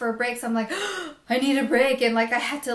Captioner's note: gasps